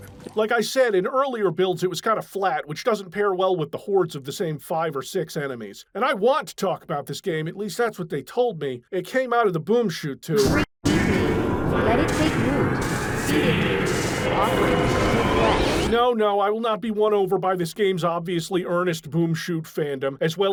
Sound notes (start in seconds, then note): 10.9 distorted demonic voice